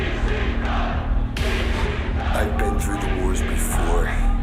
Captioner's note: fans chanting